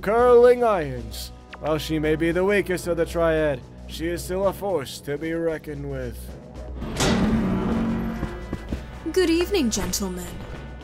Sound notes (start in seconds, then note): 6.1 creeeeeeeeeeeak